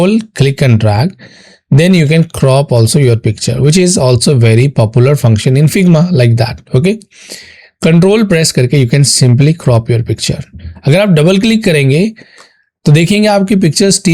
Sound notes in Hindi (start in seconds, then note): 7.0 नाक से की जाने वाली आवाज़